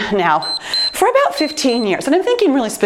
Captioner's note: timer beeps